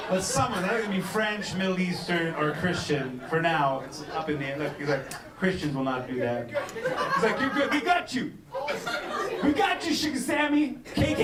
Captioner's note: laughter